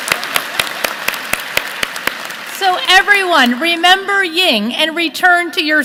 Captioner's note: applause